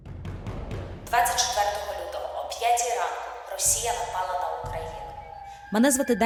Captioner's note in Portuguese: ucraniano